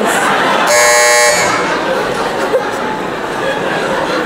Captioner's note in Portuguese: campainha